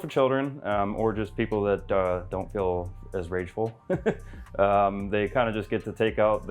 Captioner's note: chuckles